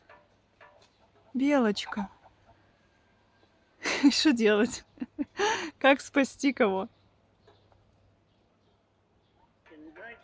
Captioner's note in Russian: смех